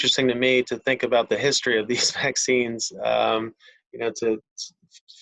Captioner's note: chuckles